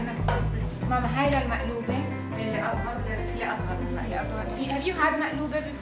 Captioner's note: speaking Arabic